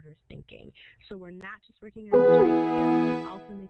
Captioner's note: computer chimes